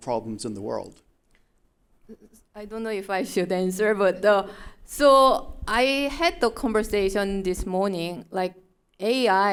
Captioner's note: chuckle